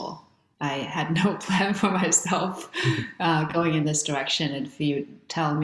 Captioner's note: laughs